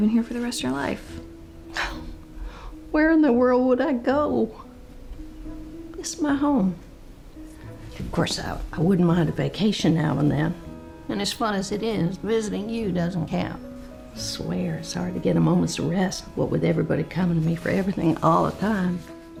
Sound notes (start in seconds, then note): 1.6 scoffs